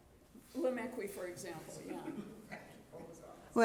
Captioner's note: speaks quietly